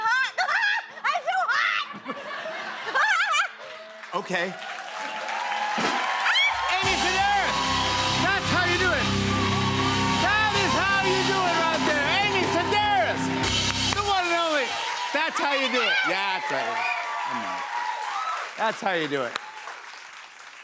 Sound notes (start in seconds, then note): 0.0 laughs; 2.3 laughter; 4.9 applause